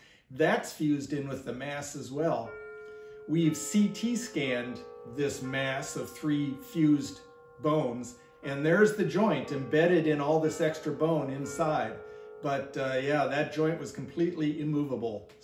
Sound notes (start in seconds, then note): 2.7 doorbell rings